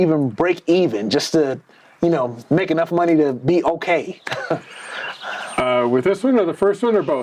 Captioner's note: chuckles